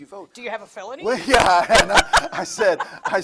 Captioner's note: laughs